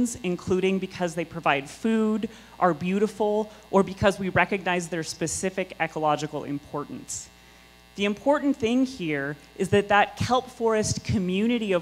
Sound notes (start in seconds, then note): none